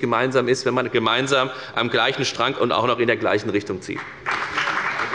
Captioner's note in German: Beifall bei der FDP